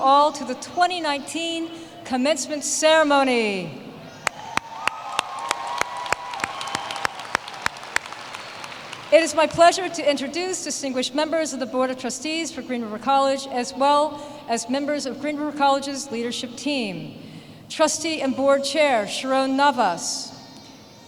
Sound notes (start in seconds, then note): 4.2 applause